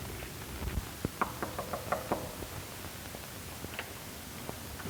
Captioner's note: knocking on door